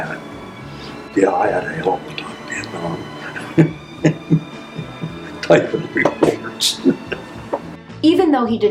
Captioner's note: laughter